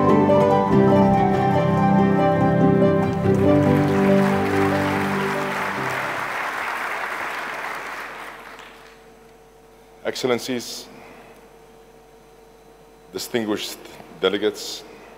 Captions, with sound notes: (audience clapping hands) - Excellencies, distinguished delegates, colleagues,